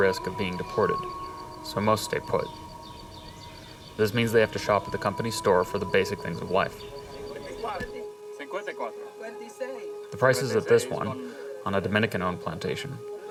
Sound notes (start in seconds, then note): 7.7 workers speaking in foreign language